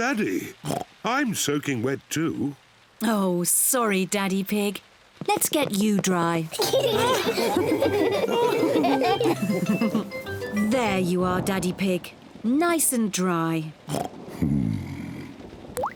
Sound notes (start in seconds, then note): 0.6 oinks; 4.4 all laughing; 13.9 oinks